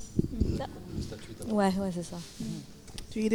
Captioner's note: speaking in French